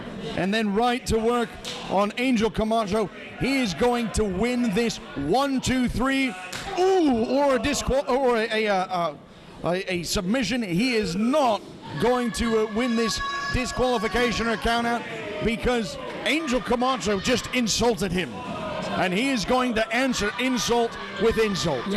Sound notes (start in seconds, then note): 6.5 loud slap